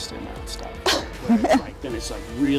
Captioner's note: laughs